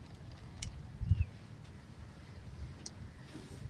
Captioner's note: birds chirping; birds chirping